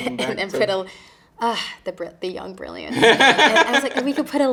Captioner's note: interviewer laughing